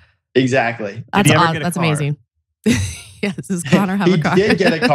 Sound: laughs

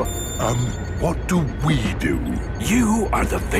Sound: whispering

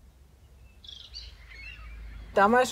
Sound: birds chirping

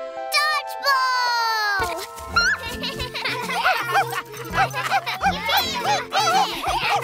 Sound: kids laughing, Scratch barking

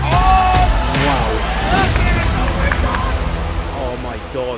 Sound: clapping

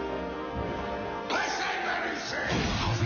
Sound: shouting

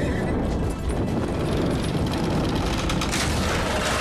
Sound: wood creaking

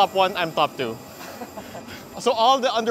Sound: laughs

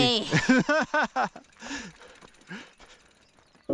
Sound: laughing

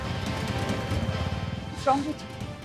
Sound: bike speeding

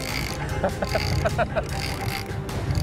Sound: laughs

